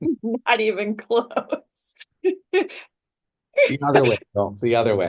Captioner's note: laughter